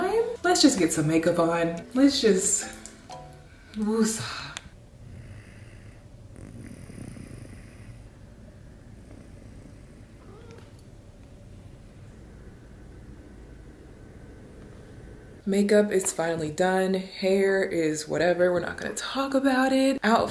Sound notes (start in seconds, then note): 6.2 child snoring; 10.2 meow